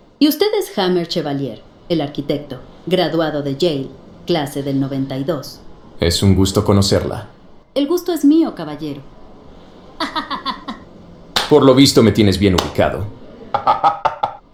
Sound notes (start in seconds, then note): 10.0 laughs; 13.4 jammer laughs